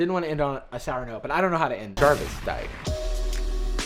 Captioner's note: voiceover